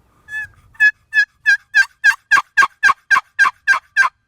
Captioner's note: box call cackling